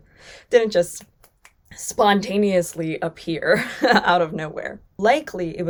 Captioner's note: chuckles